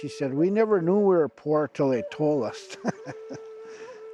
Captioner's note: laughter